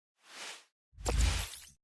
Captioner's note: air swooshes